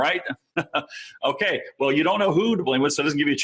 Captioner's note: chuckling